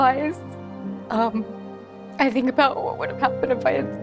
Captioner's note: voice trembles